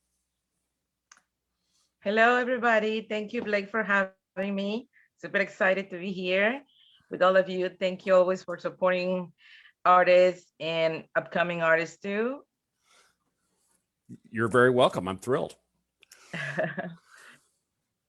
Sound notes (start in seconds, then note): 16.3 chuckles